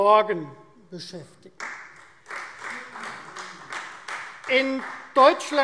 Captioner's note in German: Beifall Freie Demokraten